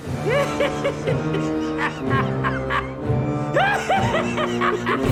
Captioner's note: laughs sardonically